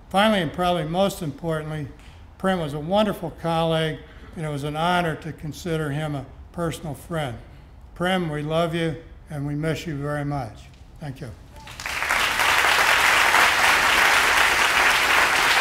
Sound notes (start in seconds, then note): 11.6 applause